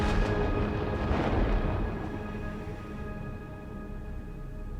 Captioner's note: thunder cracking